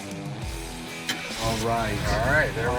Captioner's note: engine turns